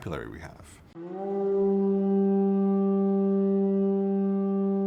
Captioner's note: loud horn blows